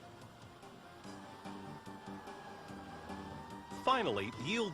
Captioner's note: fire engine siren